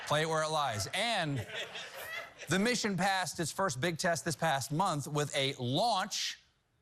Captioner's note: laughter